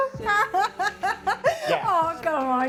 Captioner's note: laughs